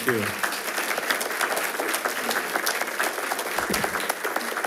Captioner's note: attendees applauding